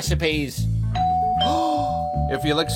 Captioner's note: doorbell rings